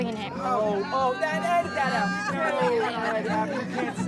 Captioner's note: siblings shout in protest; laughter